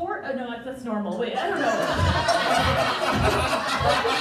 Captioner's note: crowd Laughing